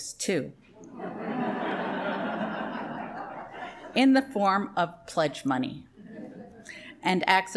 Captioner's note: laughter